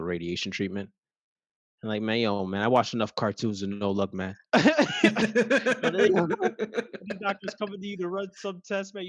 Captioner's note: laugh